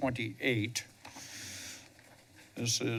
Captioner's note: inhales